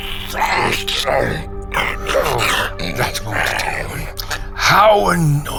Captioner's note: Slurping and choking as Loam tries to speak